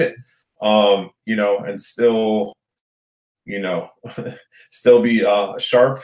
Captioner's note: chuckles